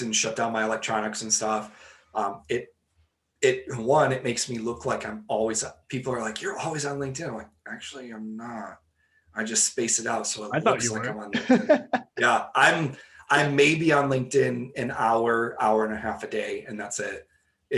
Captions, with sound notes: and shut down my electronics and stuff. It one, it makes me look like I'm always up. People are like, you're always on LinkedIn. I'm like, actually I'm not, I just space it out so likes like- - I thought you were (laughing) - Yeah, I'm may be on LinkedIn an hour, hour and a half a day, and that's it.